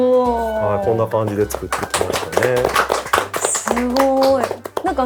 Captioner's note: applause